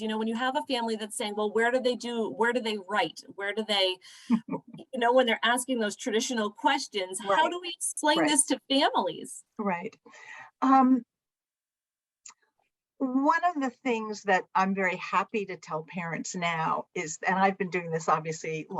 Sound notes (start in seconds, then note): 4.2 laughter